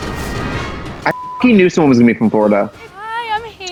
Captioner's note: bright salsa music; beep